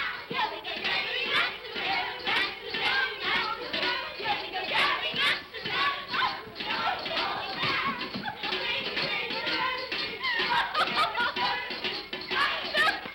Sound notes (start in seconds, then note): 6.6 children giggling; 9.9 giggling & laughter